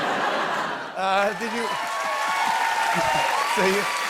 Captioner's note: laughter; cheers and applause